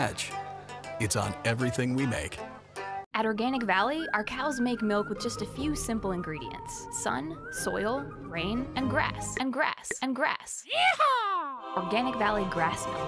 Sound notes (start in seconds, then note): 9.1 bubble popping